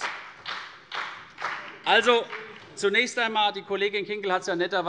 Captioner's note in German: Beifall CDU und BÜNDNIS 90/DIE GRÜNEN